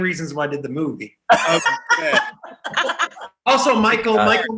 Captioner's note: group laughing